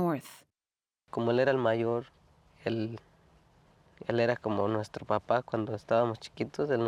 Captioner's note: speaking Spanish